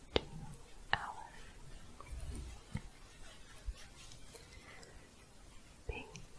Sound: shuffling

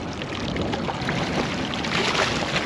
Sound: water lapping; splash

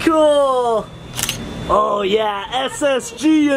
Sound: camera clicks

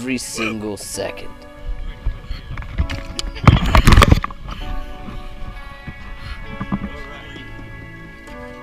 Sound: happy chattering

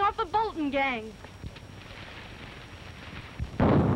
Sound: gunshots

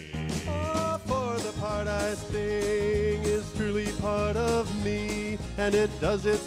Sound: baritone voice

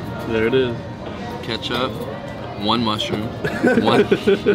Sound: laughter

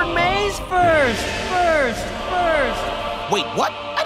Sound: echoing

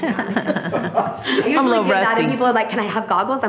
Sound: trustee laughing

